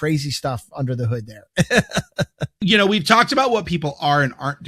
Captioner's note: chuckles